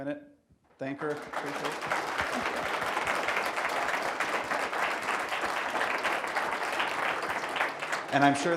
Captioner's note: applause